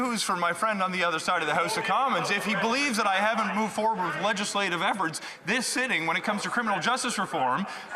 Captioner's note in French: voix de l'interprète